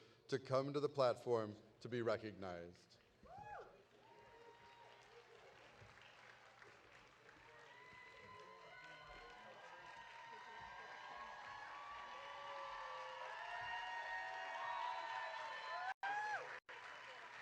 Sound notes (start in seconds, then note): 5.4 audience applauding; 5.4 audience cheering